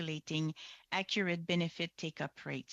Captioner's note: speaking French